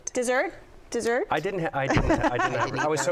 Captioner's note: laughs